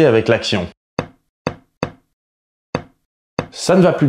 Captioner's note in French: Coups de marteau désordonnés